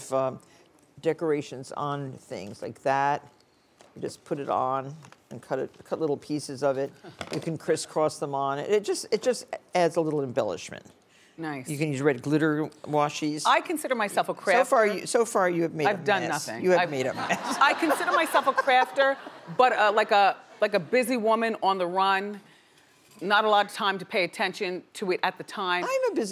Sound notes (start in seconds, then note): 17.0 audience laughing